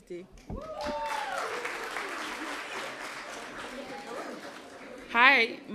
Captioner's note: applause